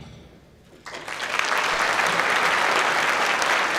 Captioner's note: clapping